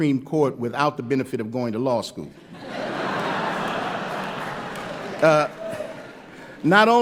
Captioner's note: laughter